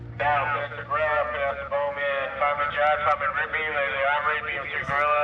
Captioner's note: roll call over loudspeaker